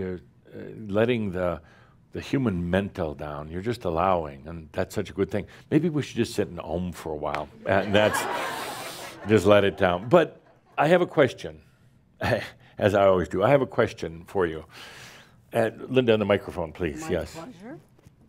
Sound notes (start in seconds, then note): 7.7 laughter